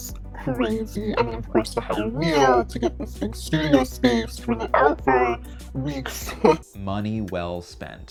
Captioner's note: laughs